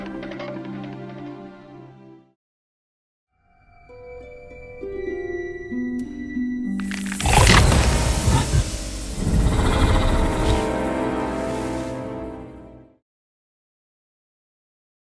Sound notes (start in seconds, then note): 9.3 Shin Godzilla wakes up & snarls